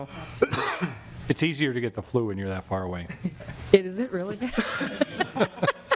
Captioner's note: laughing